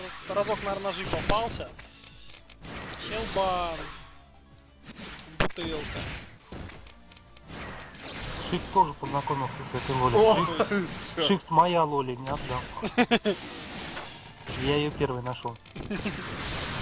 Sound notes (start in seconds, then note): 10.3 laughter; 12.8 laughter; 15.8 laughter